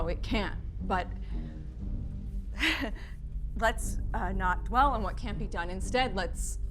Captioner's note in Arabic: يضحك